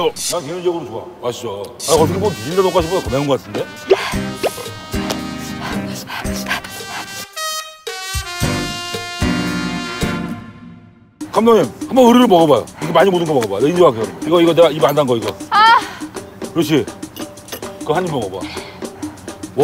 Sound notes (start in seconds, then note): 3.8 hiccup, burp